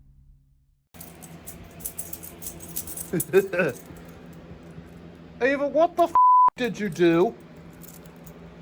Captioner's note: giggles